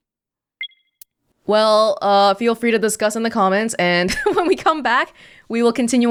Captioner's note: chuckles